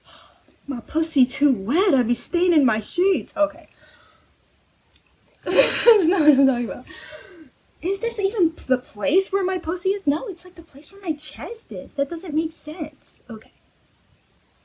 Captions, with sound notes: My p**** too wet. I be staining my sheets! Okay. *WHEEZE* That's not what i'm talking about. Is this even the place where my p***y is? No! It's like the place where my chest is. That doesn't make sense! Okay.